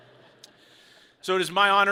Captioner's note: people chuckle